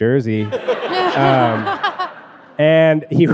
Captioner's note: audience laughing